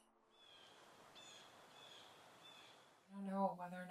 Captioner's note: distant birds squawk